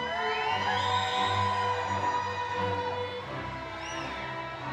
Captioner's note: crowd cheering